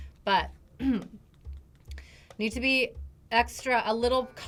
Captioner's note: clears throat